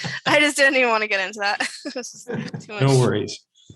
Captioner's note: chuckles; chuckles